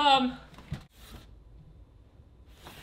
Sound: book sliding; book sliding

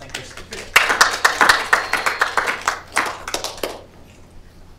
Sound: applause

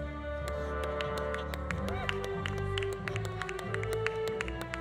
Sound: audience applauding

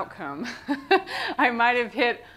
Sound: laughter

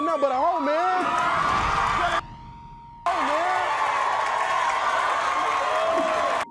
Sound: audience cheers and applauds

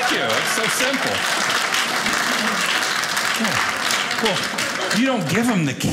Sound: audience applauding

